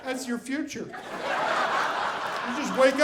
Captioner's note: audience laughing